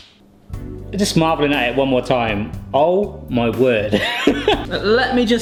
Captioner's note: laughs